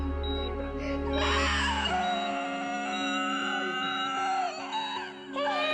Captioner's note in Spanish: Bip del monitor; Quejidos